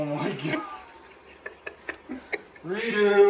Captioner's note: laughing